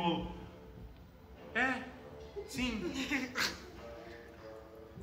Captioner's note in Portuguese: risos